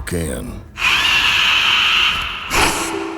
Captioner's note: screeching